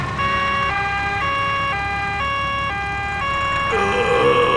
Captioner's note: siren wailing